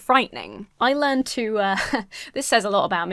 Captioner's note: chuckles